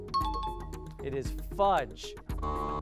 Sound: buzzer

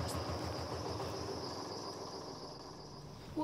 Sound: barge engine stops

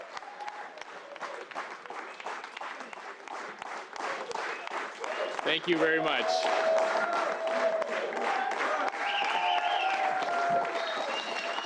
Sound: cheers and Applause

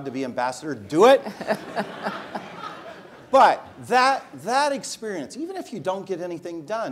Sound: laugh

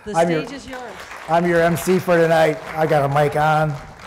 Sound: audience clapping

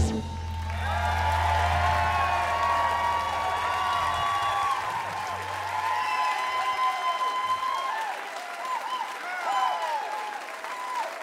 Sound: applause

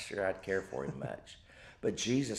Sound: chuckles

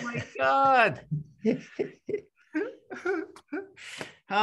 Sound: laughs

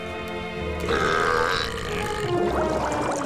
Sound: belching

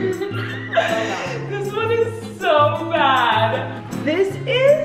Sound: laughing

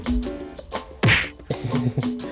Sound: smack!!

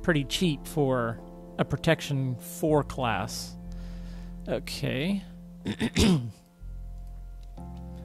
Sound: clears throat

